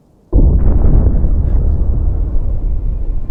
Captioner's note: loud boom